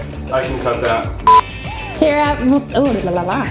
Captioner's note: beep